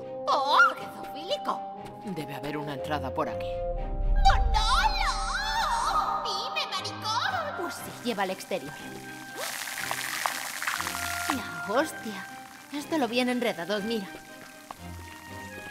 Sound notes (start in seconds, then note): 4.5 voice reverberates; 9.8 water running